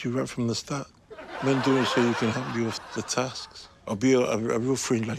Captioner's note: laughter